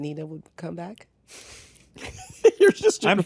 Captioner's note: chuckles softly; laughs